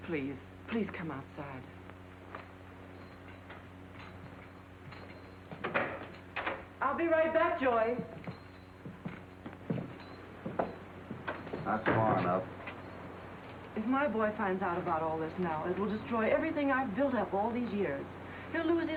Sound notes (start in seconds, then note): 2.9 spurs jingling; 5.6 door opens; 9.0 feet treading; 9.0 spurs jingling; 11.2 door closes